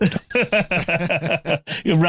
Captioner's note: laughter